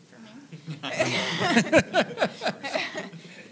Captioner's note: laughter